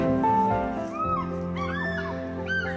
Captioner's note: squawking